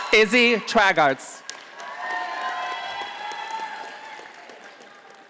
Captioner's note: audience applauding